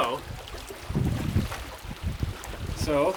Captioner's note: water splashing